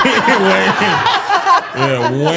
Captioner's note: all laughing